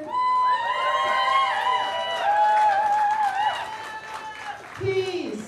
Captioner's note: cheers and applause